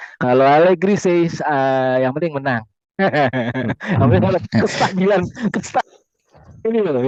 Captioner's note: laughs